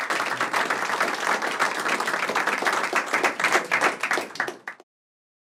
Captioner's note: applause